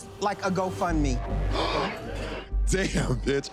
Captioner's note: gasps